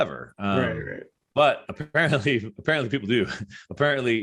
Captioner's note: chuckles